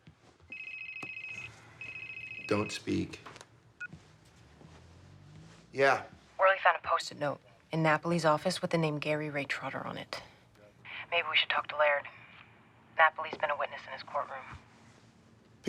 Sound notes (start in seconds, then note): 3.6 cell phone beeps